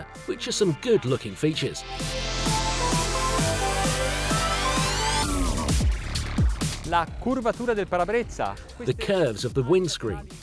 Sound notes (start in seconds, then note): 3.0 upbeat techno music; 7.0 speaking Italian